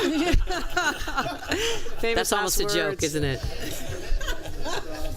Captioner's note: laughter